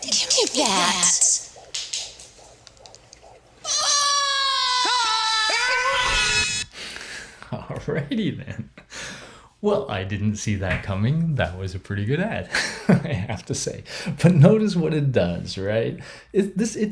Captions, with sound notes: Give me that. (baby's heart beats) (people scream in unison) - All righty, then. Well, I didn't see that coming. That was a pretty good ad, (giggles) I have to say. But notice what it does, right?